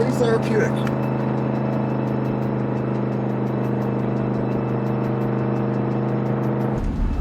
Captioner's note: suspenseful music continues; vehicle droning